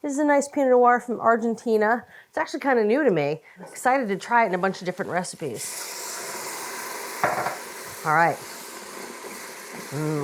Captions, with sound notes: This is a nice pinot noir from Argentina. It's actually kind of new to me. I'm excited to try it in a bunch of different recipes. (wine sizzling) All right.